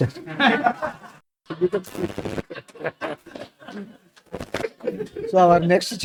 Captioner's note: laughs